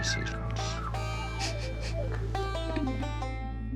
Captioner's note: chuckles